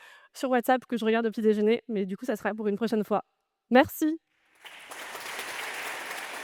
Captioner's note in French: applaudissements